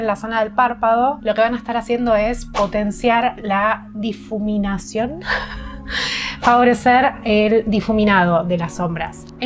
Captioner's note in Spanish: risas